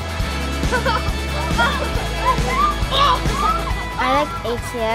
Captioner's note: kids laughing